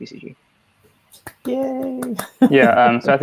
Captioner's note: applauds